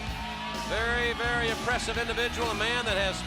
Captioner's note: crowd cheering